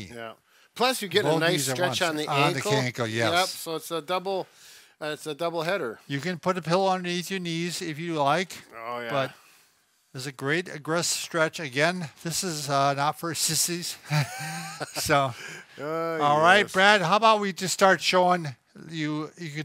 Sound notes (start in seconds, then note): 14.0 both laughing